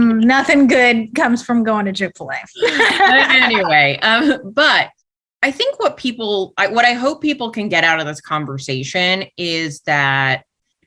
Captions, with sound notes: Nothing good comes from going to Chick-Fil-A. [laughter] But I think what people, what I hope people can get out of this conversation is that